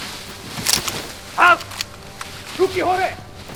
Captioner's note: in German